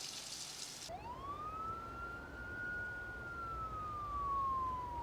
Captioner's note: siren blaring